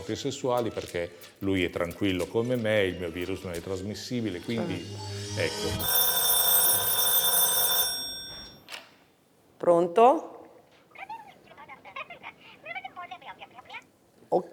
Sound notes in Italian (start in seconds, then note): 5.5 squilla il telefono; 11.0 vociare indistinto